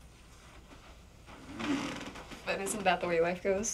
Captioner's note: bed creaking